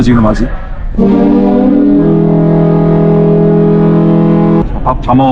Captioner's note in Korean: 뱃고동 소리